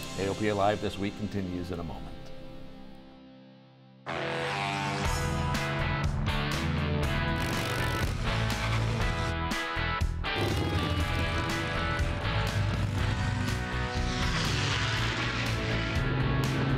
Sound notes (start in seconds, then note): 4.1 rock music; 7.6 motor revs; 8.4 propellor whirs; 13.0 airplane whirs